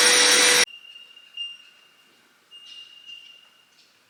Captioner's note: birds chirping